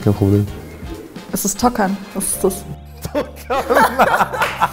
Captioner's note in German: lachend